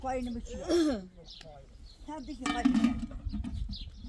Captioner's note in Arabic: تنحنُح